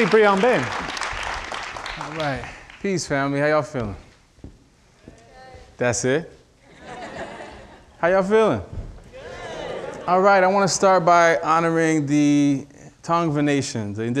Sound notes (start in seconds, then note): 1.6 audience applauding; 6.7 audience laughing